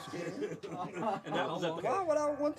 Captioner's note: laughing